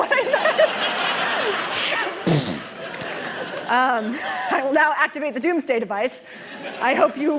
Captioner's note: laughter